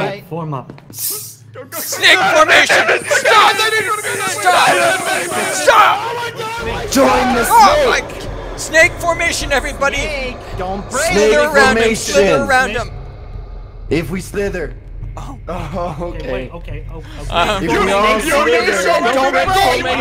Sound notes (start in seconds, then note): 3.9 screaming and panicking